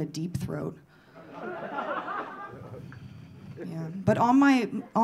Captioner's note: audience laughing